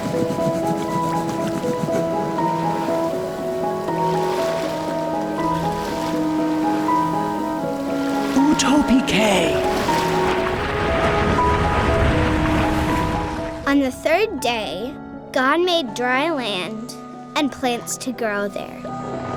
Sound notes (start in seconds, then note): 0.0 piano music; 0.2 waves splashing; 8.2 voice speaking gibberish; 19.1 piano music